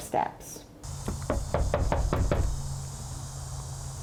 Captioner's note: door knocks